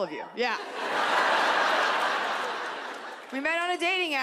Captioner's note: audience laughs